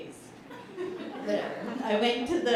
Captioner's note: laughter